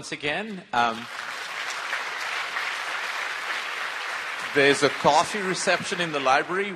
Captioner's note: applause